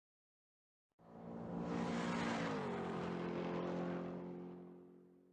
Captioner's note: car engine racing